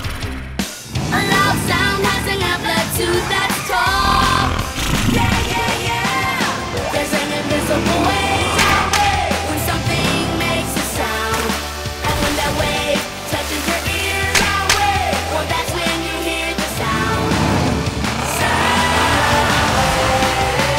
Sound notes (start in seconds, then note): 11.5 sound wave!